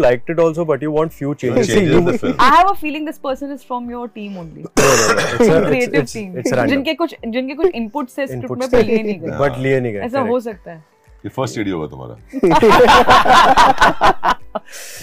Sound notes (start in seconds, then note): 4.6 coughs; 12.4 laughs